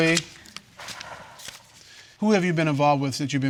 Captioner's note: exhales